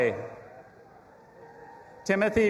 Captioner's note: audience applauding and cheering